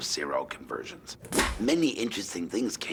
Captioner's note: clapperboard clap